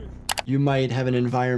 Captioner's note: mouse clicks